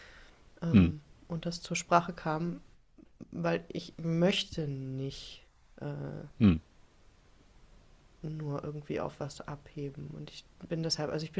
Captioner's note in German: räuspern